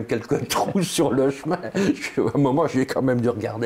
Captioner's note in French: rire